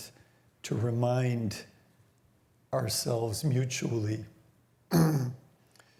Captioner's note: clears throat